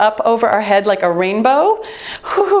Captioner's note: timer beeps